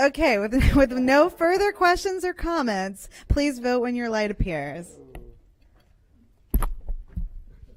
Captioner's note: laughter